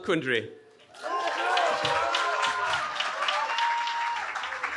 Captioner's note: cheering